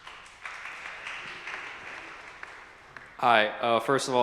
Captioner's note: audience clapping